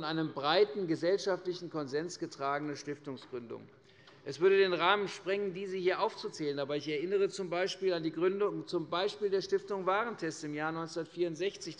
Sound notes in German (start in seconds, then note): none